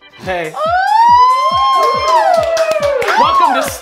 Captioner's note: cheering